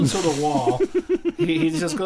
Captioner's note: laughter